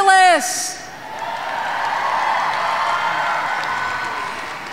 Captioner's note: audience cheering